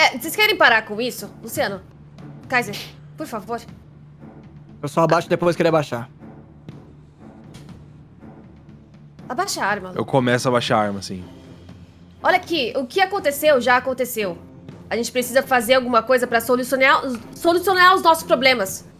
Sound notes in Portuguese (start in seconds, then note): none